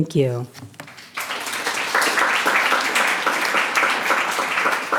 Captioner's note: clapping